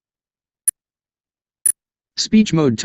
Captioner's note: computer emits high-pitched beeps